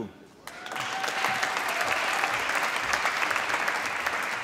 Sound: applause

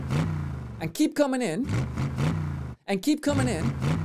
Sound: engine revving; engine revving

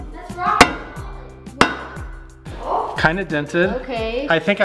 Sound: hammer taps metal; upbeat band music; hammer whacks metal

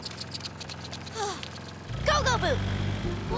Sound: sighs; shouting

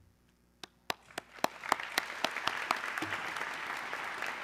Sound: audience clapping

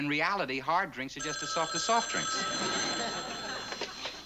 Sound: phone rings

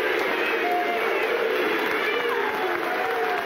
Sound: audience jeering; audience applauding

